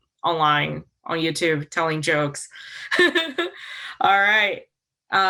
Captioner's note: chuckles